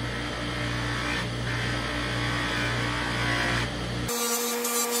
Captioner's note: grinding